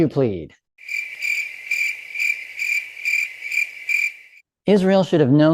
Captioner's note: crickets